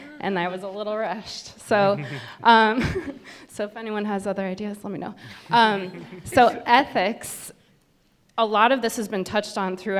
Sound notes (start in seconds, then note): 5.6 panel laughs